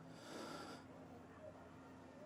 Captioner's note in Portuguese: suspiro